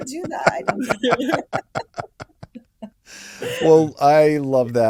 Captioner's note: laugh